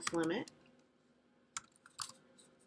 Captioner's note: silence